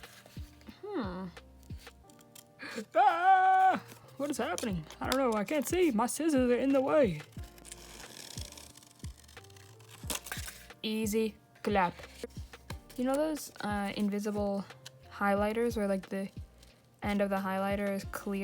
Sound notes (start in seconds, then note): 2.6 cries out